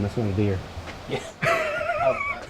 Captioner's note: both laughing